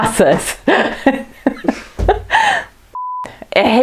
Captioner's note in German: lacht